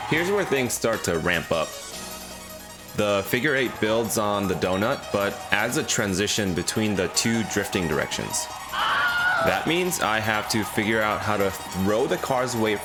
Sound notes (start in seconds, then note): 8.7 Wilhelm Scream